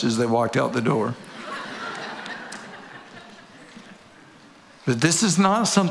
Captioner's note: audience laughing